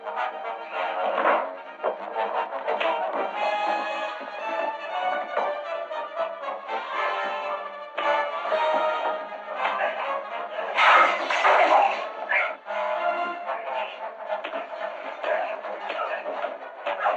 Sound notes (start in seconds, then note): 10.7 glass breaking